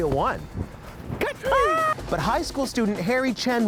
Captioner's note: shrieking